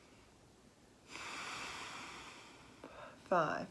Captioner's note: inhaling; exhaling